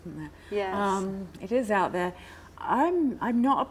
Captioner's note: none